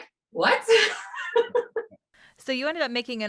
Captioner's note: laughs